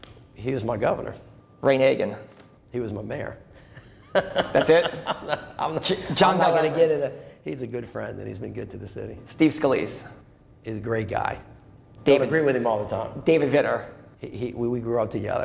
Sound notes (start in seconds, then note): 3.7 laughter